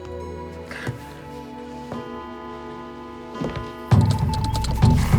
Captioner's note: clocking ringing; suspenseful beat music